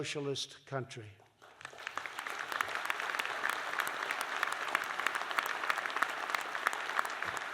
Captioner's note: applause